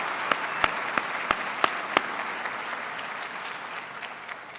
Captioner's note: applause